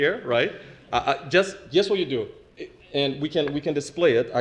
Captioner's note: laugh